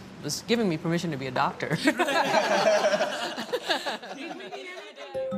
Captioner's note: group laughs